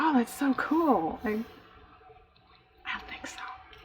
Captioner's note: whispers